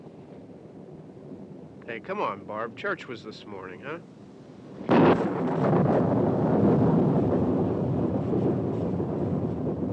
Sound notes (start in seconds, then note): 4.7 loud thunderclap